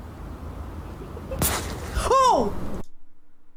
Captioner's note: distant laughing